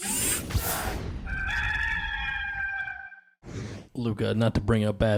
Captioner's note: rooster crowing